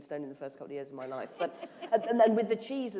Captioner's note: laughter